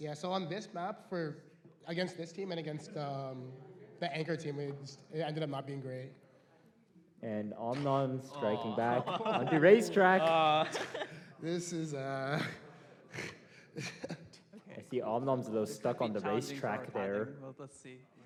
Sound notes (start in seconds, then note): 8.5 laughter